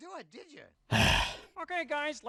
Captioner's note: sigh